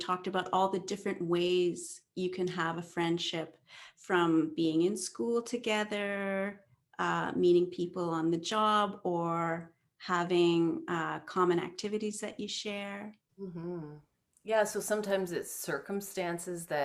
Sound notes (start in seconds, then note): none